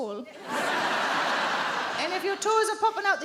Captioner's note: audience laughing